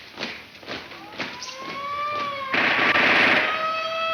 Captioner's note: siren wailing